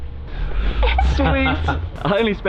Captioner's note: laughing